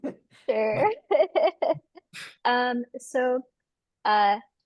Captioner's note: laughs